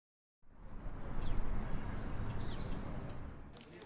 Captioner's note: birds chirping; indistinct chatter